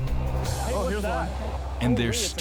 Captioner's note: excited chatter